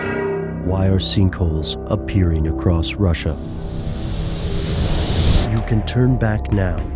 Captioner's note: voiceover